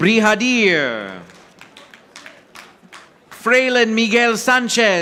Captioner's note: audience applauding